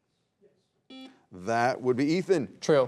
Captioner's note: buzzer beeps